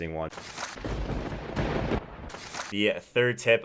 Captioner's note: thunder crackles